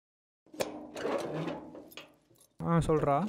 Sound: gate opens

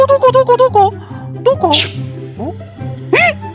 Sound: impressed gasp reax

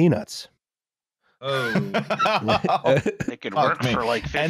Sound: laughter

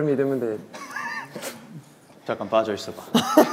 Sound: confused laughter

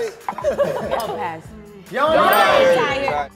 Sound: they laugh; bell dings

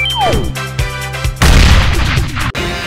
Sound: explosion

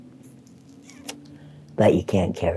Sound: sucks loudly

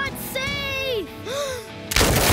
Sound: gasping

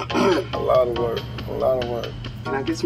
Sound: clears throat

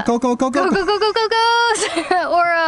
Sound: laughing

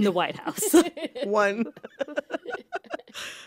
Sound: laughter

